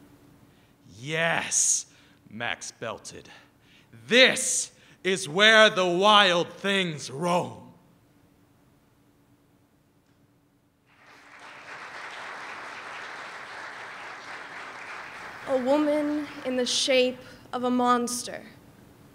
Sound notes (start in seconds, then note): 9.3 applause